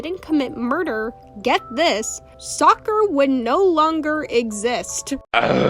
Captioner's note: eughhh